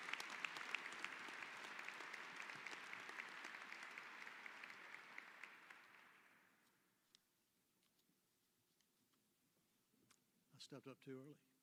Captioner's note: applause